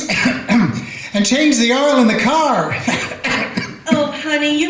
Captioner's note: coughs; coughs